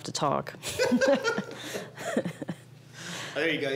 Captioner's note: laughter